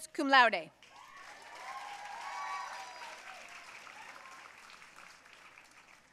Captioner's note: audience cheering and applauding